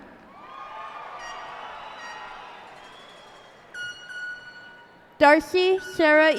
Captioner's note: cheers and applause